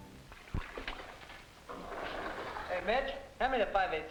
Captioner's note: water splashing